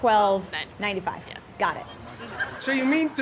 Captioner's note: laugh